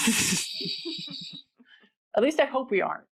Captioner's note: laughing